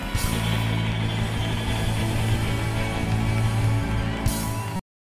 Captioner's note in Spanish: aplausos